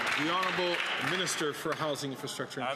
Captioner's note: some Applause